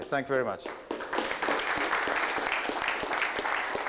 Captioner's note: applause